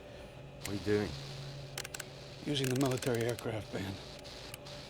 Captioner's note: radio Dial Clicking